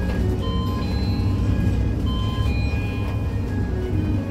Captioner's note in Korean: 하차벨 소리